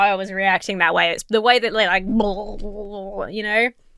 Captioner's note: Emma blurbles